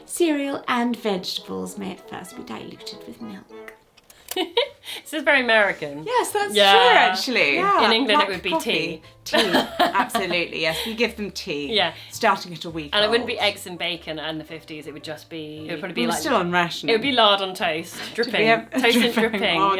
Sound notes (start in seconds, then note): 3.6 tape clicking; 6.6 laughing